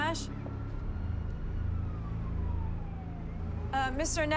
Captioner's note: police siren wailing